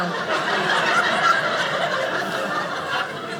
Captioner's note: audience laughing